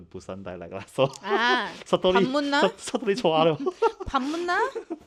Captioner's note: foreign language